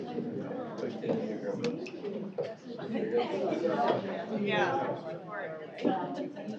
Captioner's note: indistinct chatter